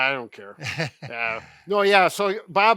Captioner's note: laughs